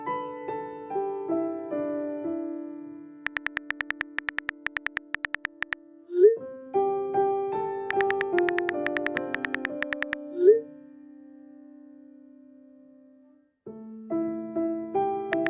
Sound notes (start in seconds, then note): 0.1 slow, gentle piano; 3.3 typing clicks